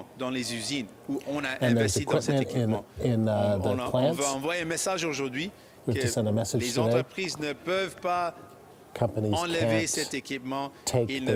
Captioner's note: speaking French